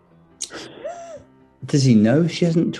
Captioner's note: sniggering